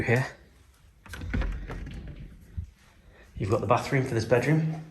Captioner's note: door rattling